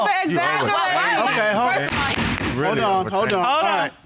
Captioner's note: gavel thuds